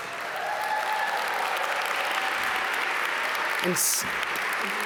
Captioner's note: audience cheer and clap